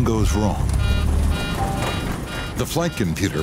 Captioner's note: alarm sounding